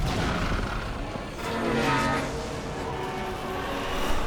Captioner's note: machines firing; metal grinding